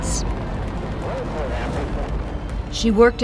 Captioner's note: radios chattering